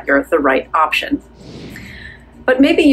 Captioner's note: air whooshing